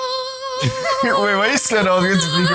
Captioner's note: laughs